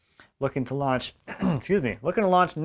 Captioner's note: clears throat